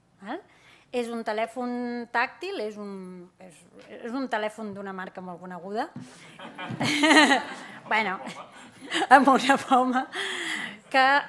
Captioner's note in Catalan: riures